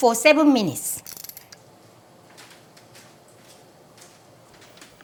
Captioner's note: timer clicking